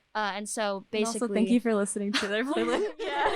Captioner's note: laughing; laughter